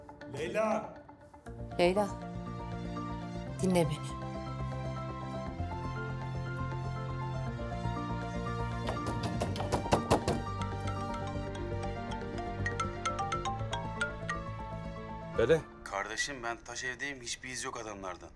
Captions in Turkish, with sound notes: Leyla Leyla. Dinle beni. [Kapı Çalıyor] [Telefon Çalıyor] Pele. Kardeşim ben taş evdeyim. ...hiçbir iz yok adamlardan.